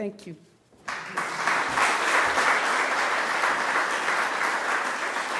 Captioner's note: audience applauding